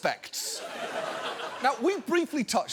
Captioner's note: audience laughs